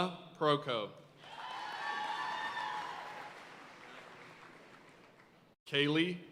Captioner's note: audience cheering and applauding